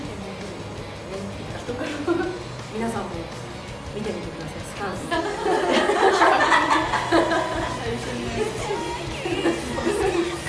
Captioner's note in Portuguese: risos